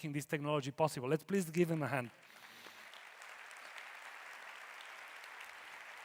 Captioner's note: audience applauding